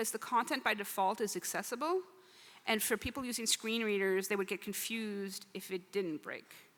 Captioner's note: speaking French